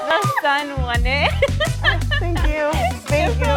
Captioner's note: audience cheering; laughing